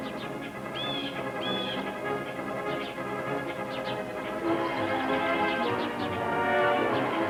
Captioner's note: blue Jay calling